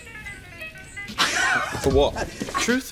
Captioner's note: laughs